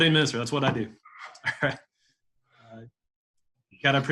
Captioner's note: laughs